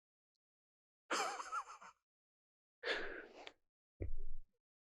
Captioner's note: Delta chuckling